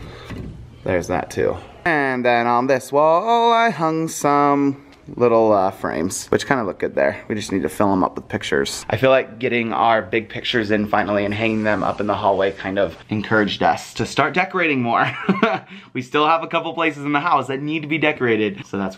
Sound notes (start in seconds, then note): 15.0 laughs